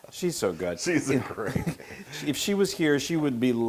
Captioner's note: laugh